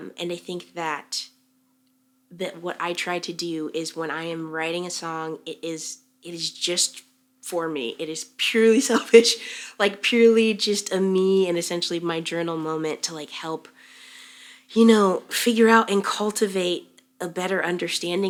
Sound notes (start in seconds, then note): 8.9 chuckles